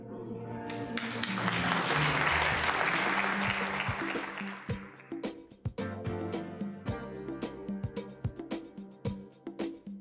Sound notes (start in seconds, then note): 0.7 applause; 4.6 mellow disco music